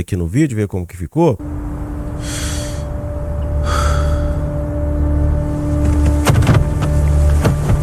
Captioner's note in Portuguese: suspirando